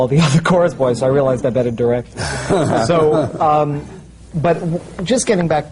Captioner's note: laughs